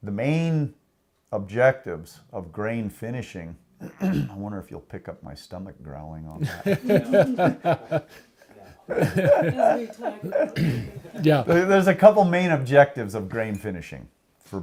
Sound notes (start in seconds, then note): 6.4 laughs